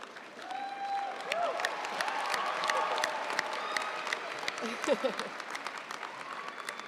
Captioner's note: audience cheering and applauding